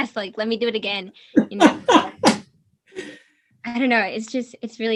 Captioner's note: laughs